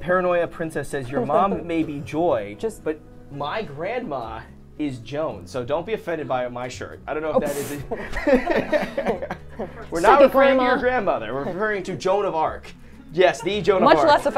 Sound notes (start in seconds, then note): 7.3 laughing